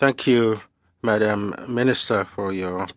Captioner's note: speaking french